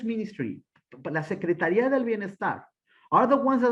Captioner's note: speaking Spanish